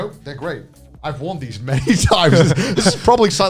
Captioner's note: laughs